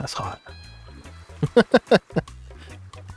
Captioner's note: laughing